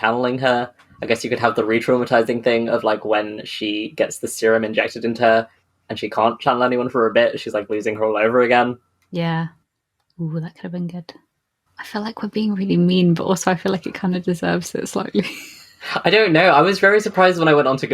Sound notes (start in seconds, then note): 11.2 whispers; 14.9 laughs